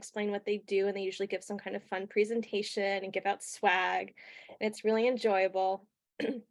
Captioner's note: clears throat